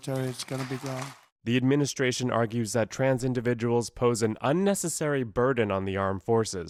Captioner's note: voice-over